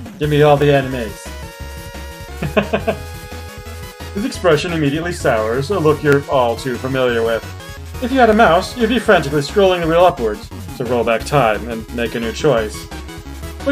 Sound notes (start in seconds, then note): 2.3 laughs